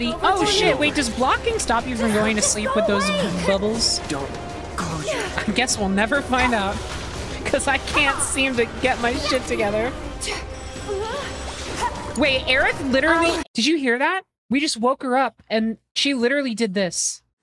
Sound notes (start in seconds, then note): 10.9 Aerith Groans And Wakes Up